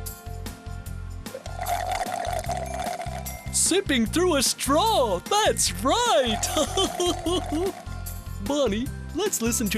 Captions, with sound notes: (slurps) SIPPING THROUGH A STRAW, THAT'S RIGHT. (chuckles) BONNIE, LET'S LISTEN TO THE SOUNDS AGAIN.